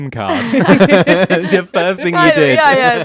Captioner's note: all laugh